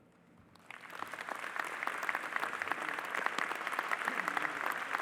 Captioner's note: audience applauding